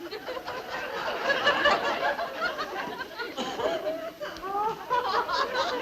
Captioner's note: people laughing continuously